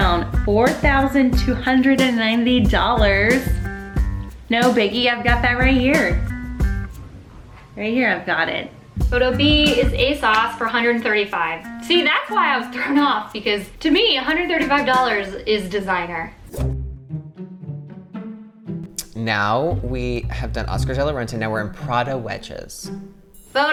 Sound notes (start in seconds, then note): 16.4 whoosh; 17.3 inquisitive music